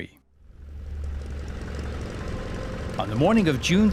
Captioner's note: engine rumbling